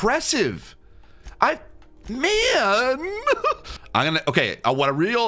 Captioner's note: laughs